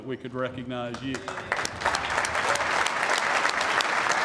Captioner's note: applause